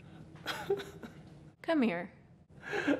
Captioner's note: weeping